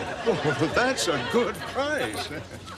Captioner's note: chuckling